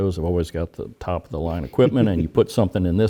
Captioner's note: laugh